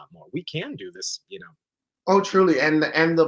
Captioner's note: none